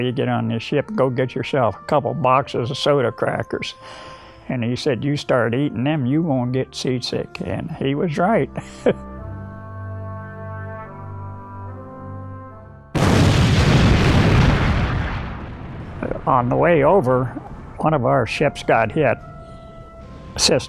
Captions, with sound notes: "go get yourself a couple boxes of soda crackers." And, he said, "You start eating them, "you won't get seasick." And, he was right (chuckles). (bomb exploding) On the way over, one of our ships got hit, sister ships.